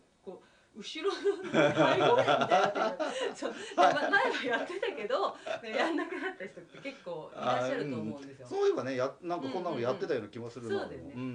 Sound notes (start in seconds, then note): 6.8 laughs